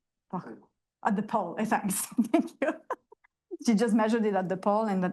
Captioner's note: laughs